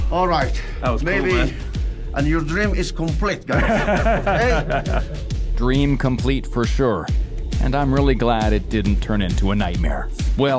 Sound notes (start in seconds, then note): 3.5 everyone laughs